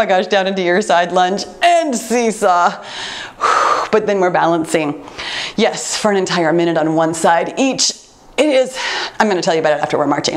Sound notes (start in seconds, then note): 2.8 exhales